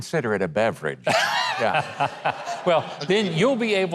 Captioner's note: Mike laughing